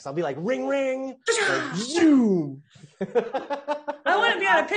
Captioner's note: laughing softly